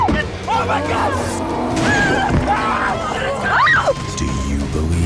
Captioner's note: growling, screaming